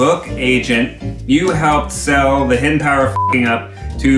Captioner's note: beep